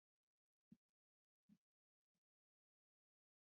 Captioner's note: silence